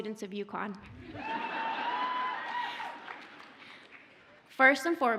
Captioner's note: audience cheers